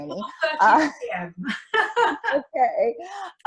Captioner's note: laughs